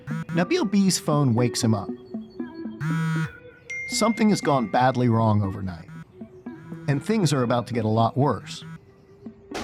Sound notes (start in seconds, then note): 2.8 phone buzzing